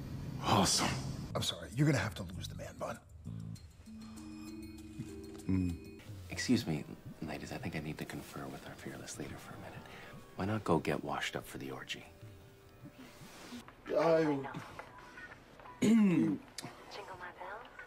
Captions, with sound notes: Awesome. I'm sorry, you're gonna have to lose the man bun. Excuse me ladies, I think I need to confer with our fearless leader for a minute, why not go get washed up for the orgy? I- uh. *Clears throat*